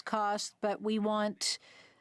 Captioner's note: speaking French